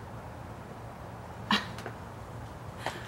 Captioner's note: Tiffany scoffs